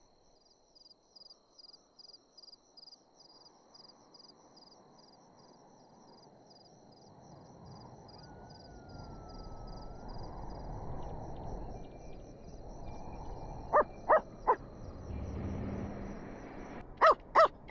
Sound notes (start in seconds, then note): 14.0 dog barking from inside